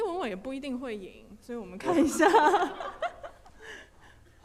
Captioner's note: laughing